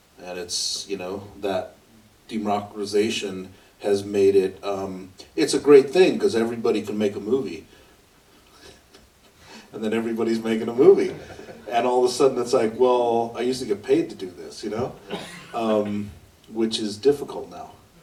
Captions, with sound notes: And it's, you know, that democratization has made it - It's a great thing because everybody can make a movie. [laughs] And then everybody's making a movie. And all of a sudden it's like, "Well, I used to get paid to do this." You know? Which is difficult now.